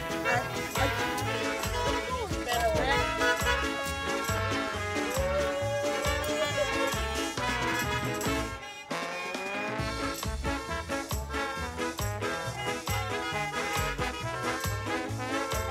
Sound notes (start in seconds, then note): 0.3 car honks; 8.9 car horns blaring